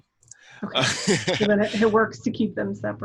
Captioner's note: laughs